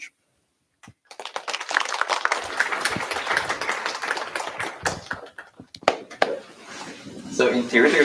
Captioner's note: applause